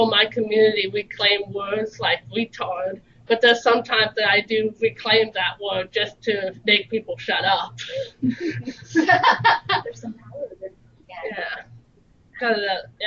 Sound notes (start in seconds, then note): 8.2 laughter